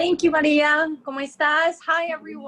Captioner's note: speaking spanish